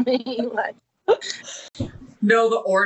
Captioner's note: laughing